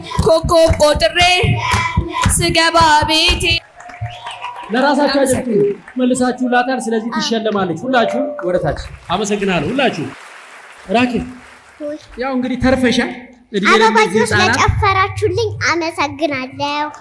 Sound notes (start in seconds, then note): 0.0 traditional song sang by girls for the new years; 9.9 applause